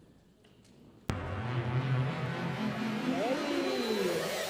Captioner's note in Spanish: zumbido